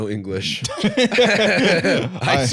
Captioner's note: both laughing